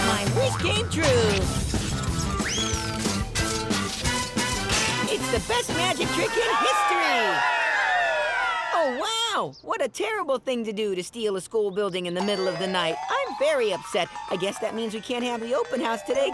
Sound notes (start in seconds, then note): 7.0 crowd cheering